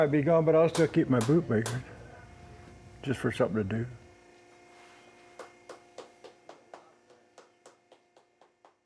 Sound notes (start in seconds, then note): 5.3 clapping sounds